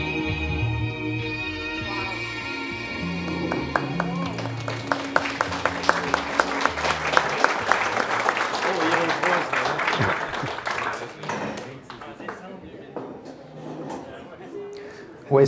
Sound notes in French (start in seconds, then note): 3.3 Applaudissements